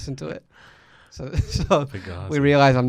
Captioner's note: laughs